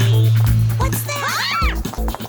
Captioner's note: whirring